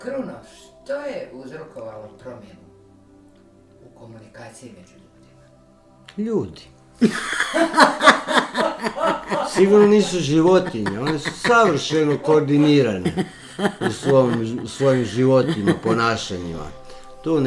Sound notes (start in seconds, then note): 7.6 laughter